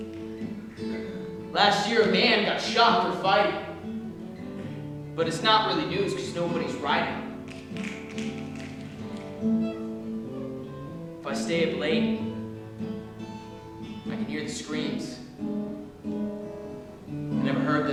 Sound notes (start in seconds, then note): 7.4 snapping